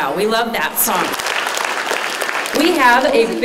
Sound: applause

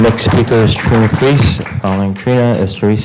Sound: applause

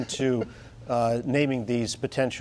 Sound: laughter

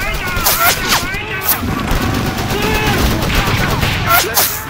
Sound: weapons bullets fly

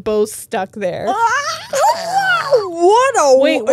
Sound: both screaming

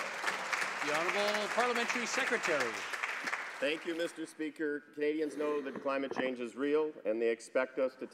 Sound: some Applause

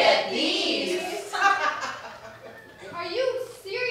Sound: laughter

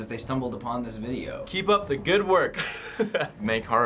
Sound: chuckles

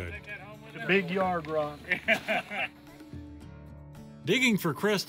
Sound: laughs

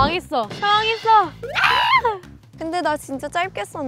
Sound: panicking

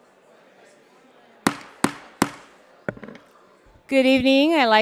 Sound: gavel tapping

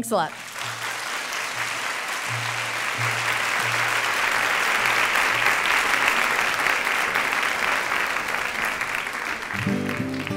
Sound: applause

